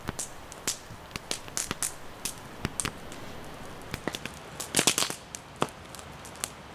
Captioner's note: fire crackling